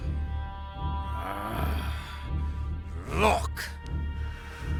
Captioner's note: growls